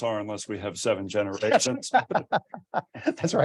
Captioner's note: both laugh